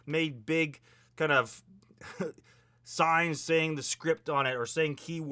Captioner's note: chuckles